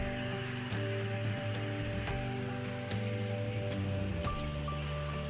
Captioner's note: water fountain running